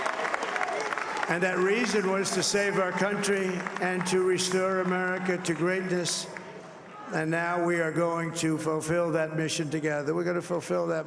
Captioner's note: cheering and applause